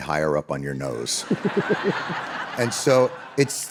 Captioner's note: audience laughing